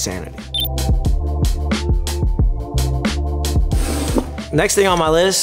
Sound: hip hop music; electronic beep

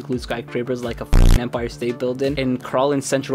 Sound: beep

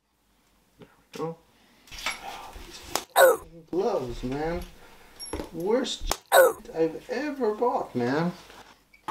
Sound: swearing

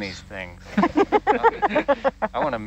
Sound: all giggling

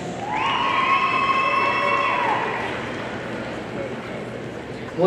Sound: audience cheering

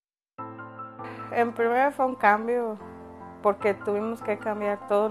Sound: speaking Spanish

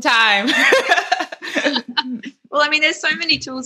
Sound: laughing

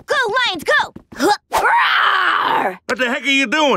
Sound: roaring

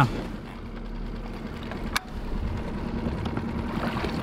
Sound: boat engine purring

